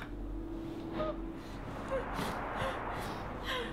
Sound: sobbing

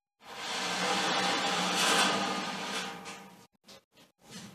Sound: the sound of the movement of the rack on the floor

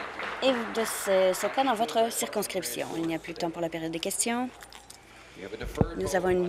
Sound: applause

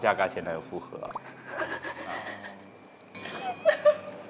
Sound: suddenly laughing

